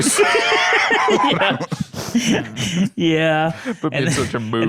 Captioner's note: laughs